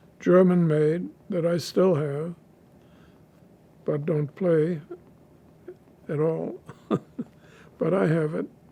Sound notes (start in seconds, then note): 6.4 laughing